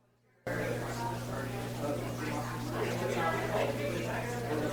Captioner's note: crowd murmuring